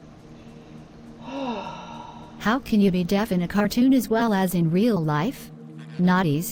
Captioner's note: sigh